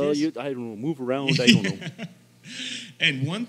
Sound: Billy laughs

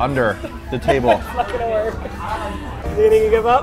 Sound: laughs

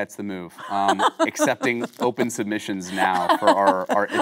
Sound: Kate laughing

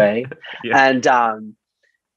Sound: laughs

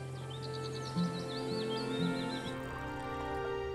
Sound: birds chirping; soft music

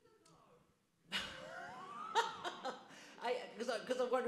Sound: audience laughs

